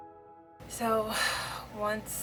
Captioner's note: sighs